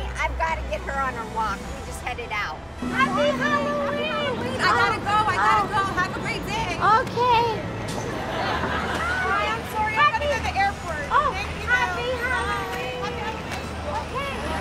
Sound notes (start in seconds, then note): 8.1 laughing